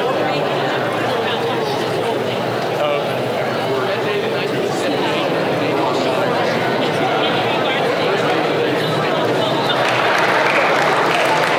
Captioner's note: crowd talking